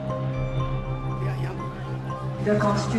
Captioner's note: speaking in Burmese